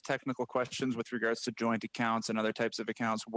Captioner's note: speaking French